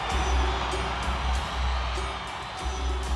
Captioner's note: crowd cheering